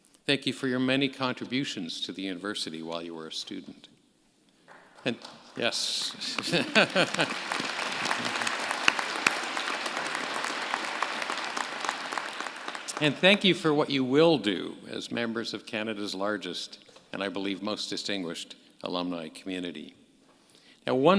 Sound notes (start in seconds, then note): 5.9 applause; 6.1 laugh